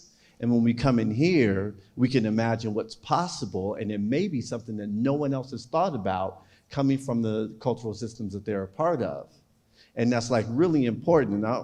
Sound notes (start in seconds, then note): none